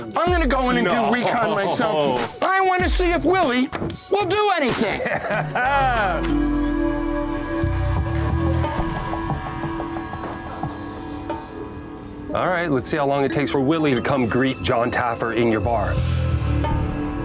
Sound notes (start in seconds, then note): 0.8 laughing; 4.8 laughing; 5.3 tense music